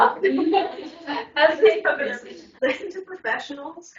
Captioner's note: everyone laughing